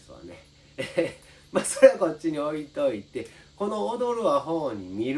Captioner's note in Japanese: 笑い